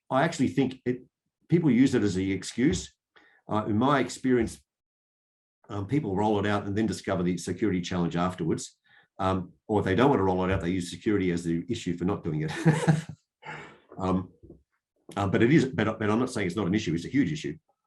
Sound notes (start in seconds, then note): 12.5 laughs